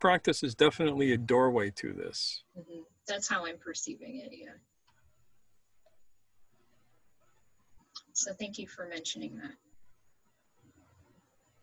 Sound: laughs

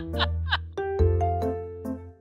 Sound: hold back laughter

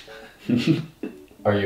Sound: giggles

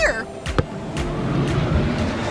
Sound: wind whooshing

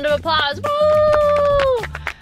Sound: imitates cheering

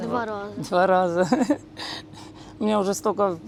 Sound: laughs

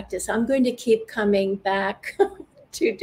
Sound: chuckles

